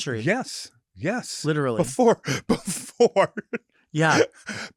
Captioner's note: laughs